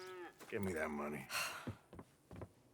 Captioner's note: sigh